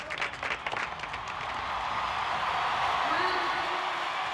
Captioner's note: cheering